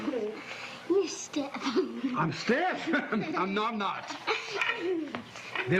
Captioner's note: laugh